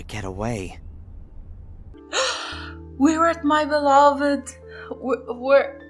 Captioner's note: gasp